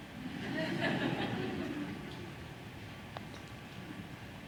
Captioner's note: audience laughs